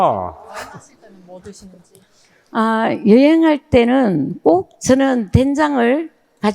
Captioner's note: both speaking in foreign language